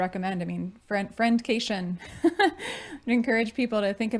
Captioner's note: laughing